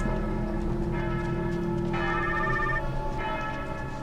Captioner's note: phone rings